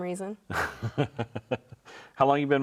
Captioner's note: laughs